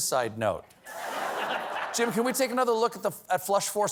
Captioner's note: laughter